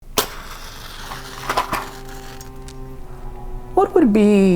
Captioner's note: dramatic music; match striking